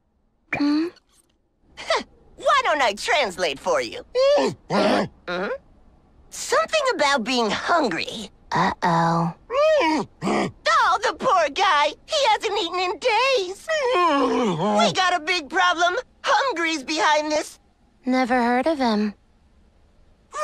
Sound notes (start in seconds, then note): 4.6 growl; 9.4 groan